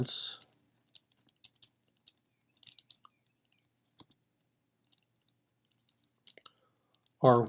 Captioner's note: typing